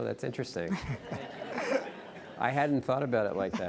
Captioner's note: audience laughing